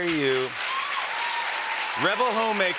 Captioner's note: cheers and applause